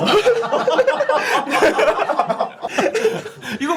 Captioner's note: the laughter starts immediately